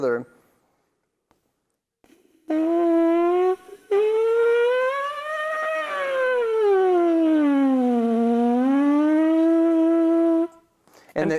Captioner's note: makes a sound like a siren